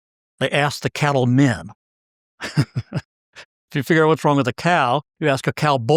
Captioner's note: laugh